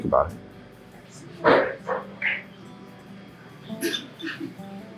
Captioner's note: dog barks; mellow guitar music